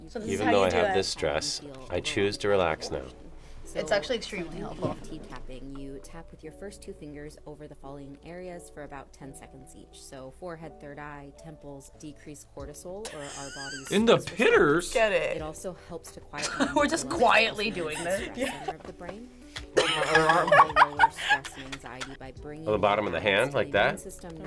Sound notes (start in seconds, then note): 13.1 React laughs; 17.7 laughs; 19.7 both laugh; 19.8 laughs